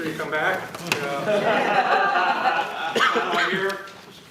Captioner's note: laughter